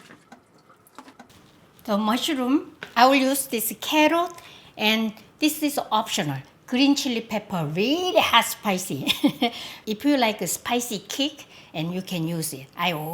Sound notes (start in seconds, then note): 9.0 laughs